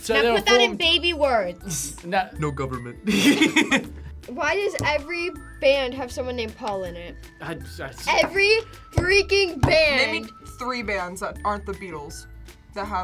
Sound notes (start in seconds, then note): 3.0 both laugh